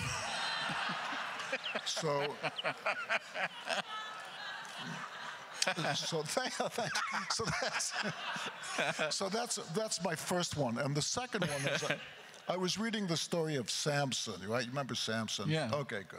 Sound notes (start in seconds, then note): 0.0 laughing; 0.1 crowd laughter; 5.8 laughs; 11.4 laughing